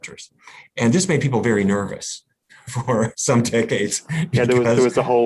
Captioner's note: laughs